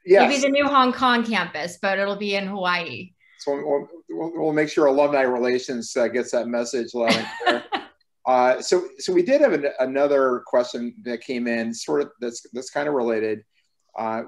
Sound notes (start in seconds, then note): 7.0 laughing